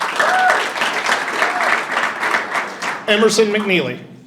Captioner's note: audience applauding and cheering